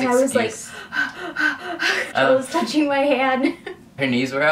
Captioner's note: breathes deeply